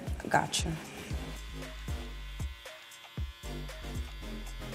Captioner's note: razor buzzes